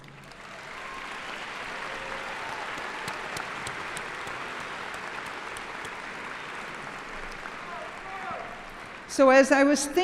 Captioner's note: applause